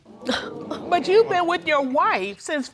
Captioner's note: audience gasping